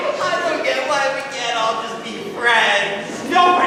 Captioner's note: sobs